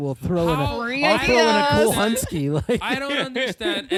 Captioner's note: laughter